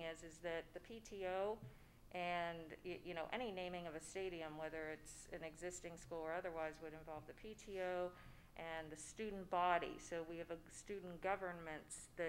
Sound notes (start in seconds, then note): none